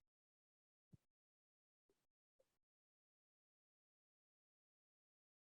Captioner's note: silence